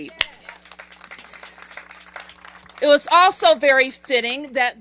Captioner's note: applause